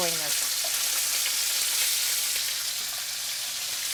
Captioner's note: sizzling